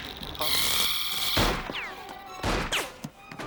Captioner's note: motor whirs